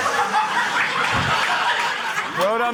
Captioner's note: laughter